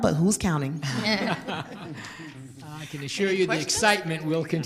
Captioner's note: group laughter